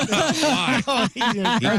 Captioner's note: laughing